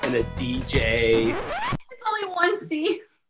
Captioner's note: record scratch